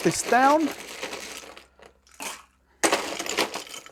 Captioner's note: ice crackling